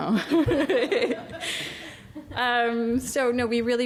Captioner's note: laughs